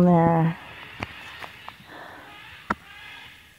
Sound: macaws squawking

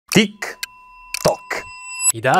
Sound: clock ticking in the background

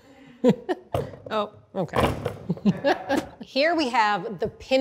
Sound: laughs; potatoes thumping

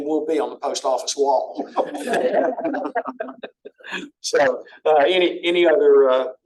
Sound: laughter

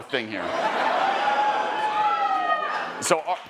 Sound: attendees cheering

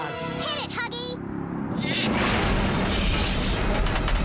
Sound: loud rumbling

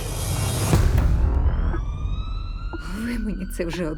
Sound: siren wailing in distance

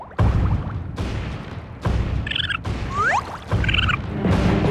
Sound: chirping

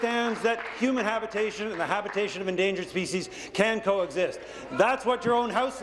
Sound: applause

